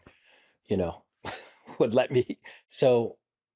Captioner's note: laughs